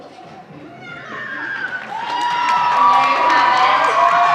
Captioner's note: audience applauding